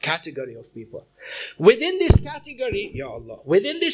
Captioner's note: hits mic